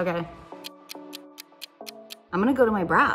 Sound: clock ticks

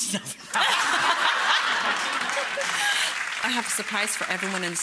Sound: audience laughing

